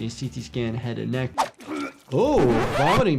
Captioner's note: person gagging; record scratching